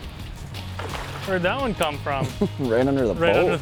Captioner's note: pat